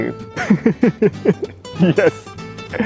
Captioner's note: laughs